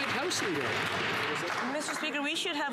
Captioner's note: some Applause